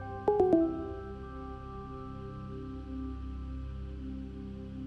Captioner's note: computer notification chiming